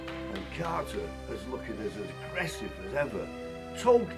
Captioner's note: voiceover